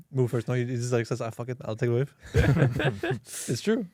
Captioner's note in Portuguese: risos